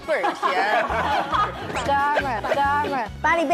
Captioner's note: laughs off-camera